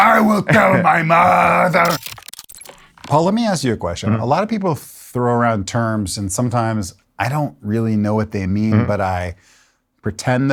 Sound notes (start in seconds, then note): 1.2 electronics chirping